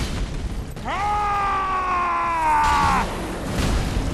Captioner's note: yelling